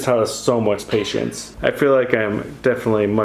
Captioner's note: laughing